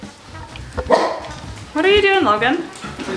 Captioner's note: dog barking